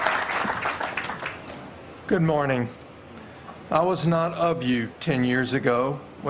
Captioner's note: applause